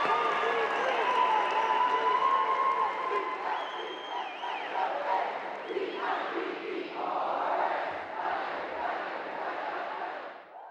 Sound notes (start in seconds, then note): 5.8 cheers and Applause